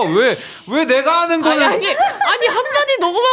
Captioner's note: frustrated